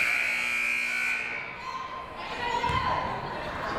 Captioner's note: siren buzzing